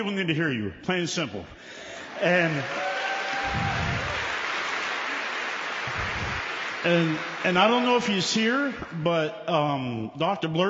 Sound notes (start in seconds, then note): 1.8 applause